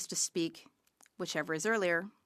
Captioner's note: speaking French